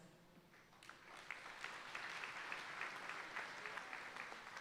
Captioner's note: audience applauding